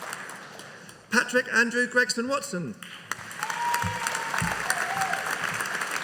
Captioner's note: audience applauding